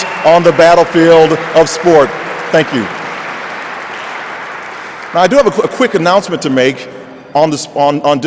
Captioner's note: applause